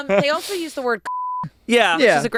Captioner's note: everyone laughs; beep